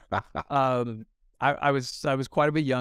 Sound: chuckles

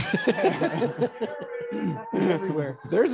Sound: attendees laughing

